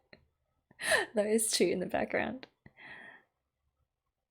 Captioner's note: laughs